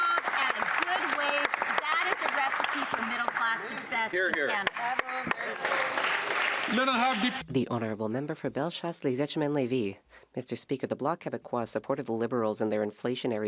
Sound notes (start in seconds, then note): 0.0 some Applause